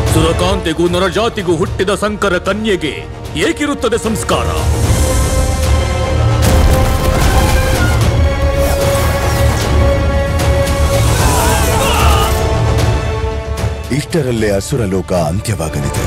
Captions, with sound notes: How can a half-bred born to an angel and a human be cultured? [soldiers screaming in pain] The demon world would perish soon.